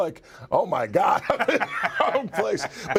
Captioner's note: laugh